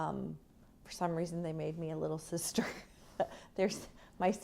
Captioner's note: laughter